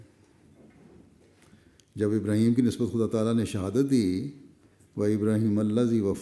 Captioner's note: arabic